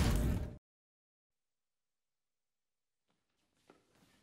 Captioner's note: silence